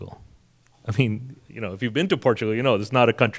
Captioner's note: chuckles